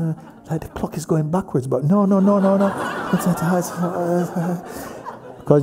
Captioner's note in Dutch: gelach